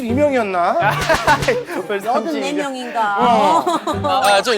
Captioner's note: laughing